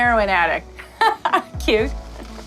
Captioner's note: laughs